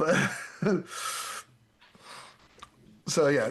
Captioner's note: laughs